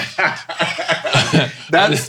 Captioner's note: Dwyane laughing; laughing